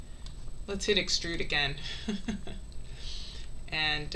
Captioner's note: laughing